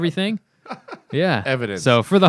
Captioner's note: laughter